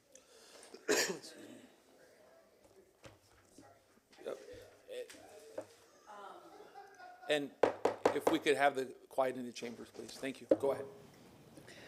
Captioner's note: microphone not on